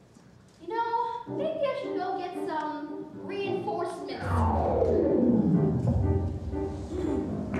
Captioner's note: vortexy sucking noise